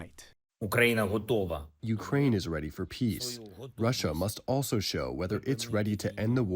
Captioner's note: through translator